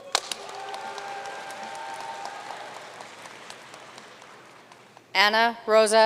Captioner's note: audience cheering and applauding